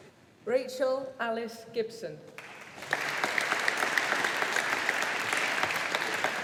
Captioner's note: audience applauding